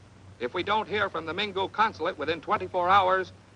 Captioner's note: man On Radio